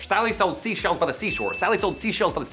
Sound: bell dings

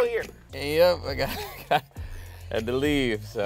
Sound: laughing

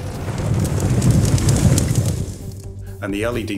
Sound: fire crackling

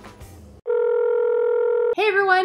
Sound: phone ringing

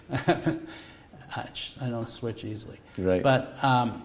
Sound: chuckle

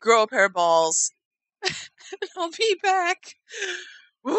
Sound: sobbing

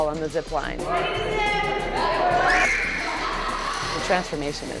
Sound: squeals

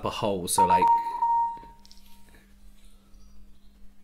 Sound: some Technical Beeping

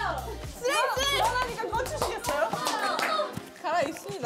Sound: infinite clapping of the slate

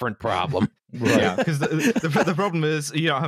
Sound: all laughing

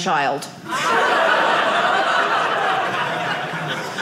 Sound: audience laughing

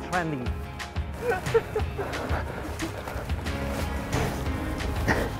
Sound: laughing

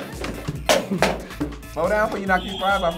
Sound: buzzer blares; box hitting the floor

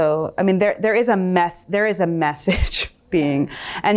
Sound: chuckles

